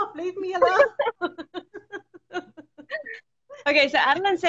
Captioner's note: both laughing